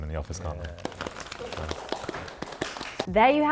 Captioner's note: all clapping